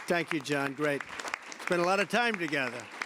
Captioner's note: applause